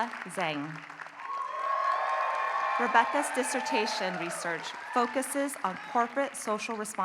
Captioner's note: applause